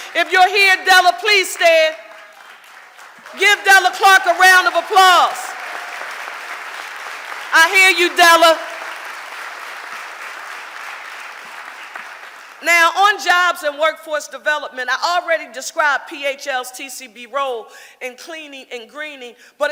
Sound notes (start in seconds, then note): 5.6 audience applauding; 9.0 audience applauding